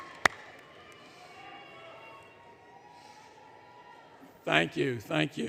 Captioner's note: applause; audience Chatter, Cheering